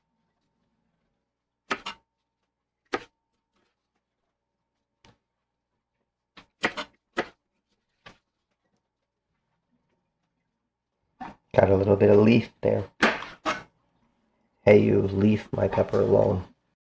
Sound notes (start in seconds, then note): 13.1 knife cutting